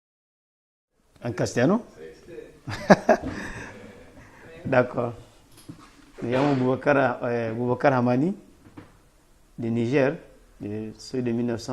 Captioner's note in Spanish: risas